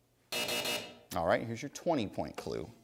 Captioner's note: buzz